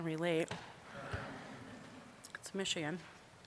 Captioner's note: audience chuckling